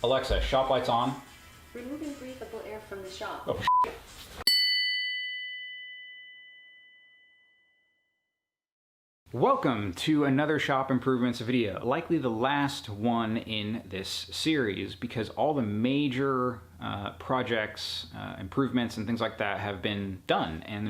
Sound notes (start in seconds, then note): 3.8 beeps; 4.5 titles dinging